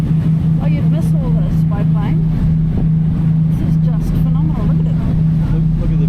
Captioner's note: ferry engine noises